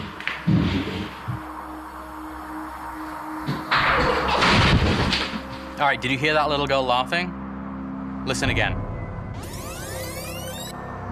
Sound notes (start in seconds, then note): 3.6 objects clattering